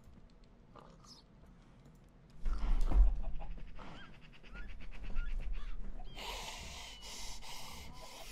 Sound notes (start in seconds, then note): 2.3 thud; 6.1 heavy breathing